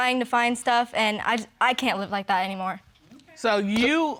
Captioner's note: stammering